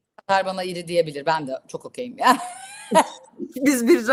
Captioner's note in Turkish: kahkaha